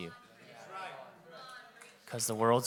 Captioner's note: audience chattering